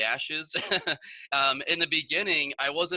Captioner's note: laughs